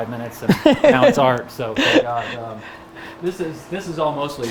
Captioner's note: Gary laughs